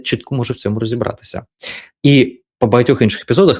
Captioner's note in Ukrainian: сопіння